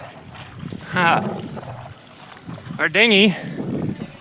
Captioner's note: water splashing